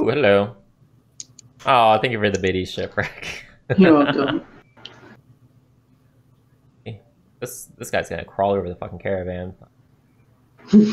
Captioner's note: laughter